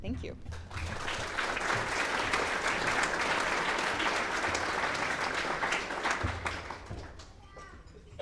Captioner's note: clapping